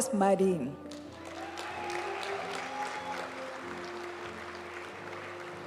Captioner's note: audience cheering and applauding; graduation music